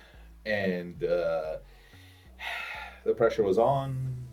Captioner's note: sighs